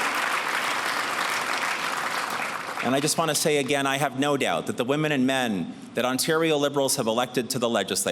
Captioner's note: cheers and applause